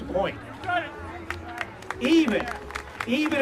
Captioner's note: crowd applauds